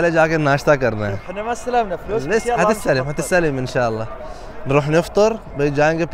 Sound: Arabic

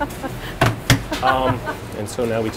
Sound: laughs

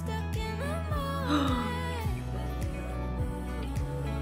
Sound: gasps onscreen

